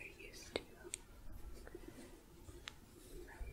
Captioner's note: gentle tapping